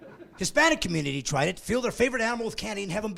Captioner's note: laughing